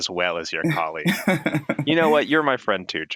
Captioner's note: chuckling